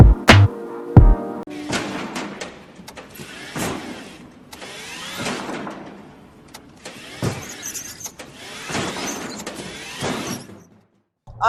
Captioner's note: cart tires and crashing sounds